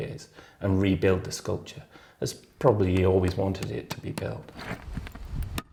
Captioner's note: none